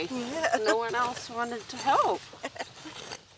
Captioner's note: laughs